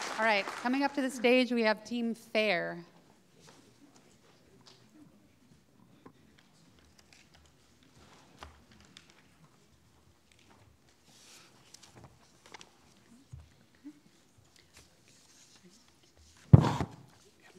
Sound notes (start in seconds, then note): 13.1 faintly speaking